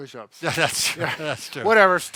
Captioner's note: chuckles